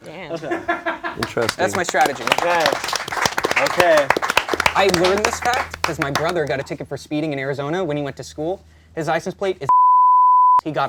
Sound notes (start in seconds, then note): 2.9 clapping